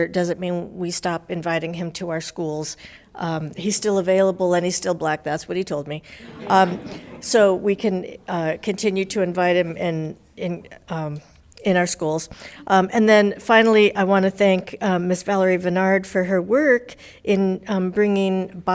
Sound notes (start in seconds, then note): 6.1 laughing